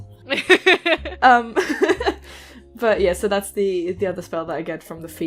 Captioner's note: laughter